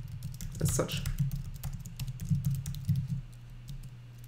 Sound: typing

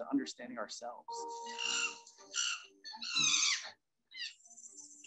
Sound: bonobos screeching

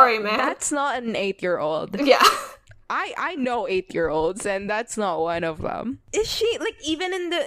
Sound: laughs

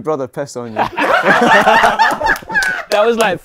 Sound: people laughing

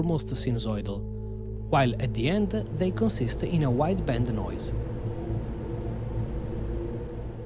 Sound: wide-band noise

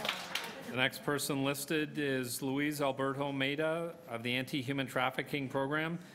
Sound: applause

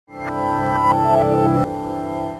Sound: digital tone

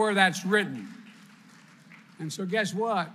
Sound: applause

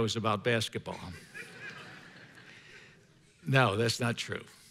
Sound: congregation laughing

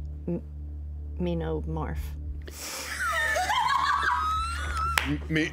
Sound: everyone laughs

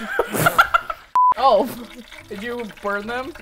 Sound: laughing; beep

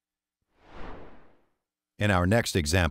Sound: screen whooshing

